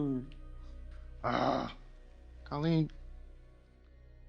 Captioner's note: groans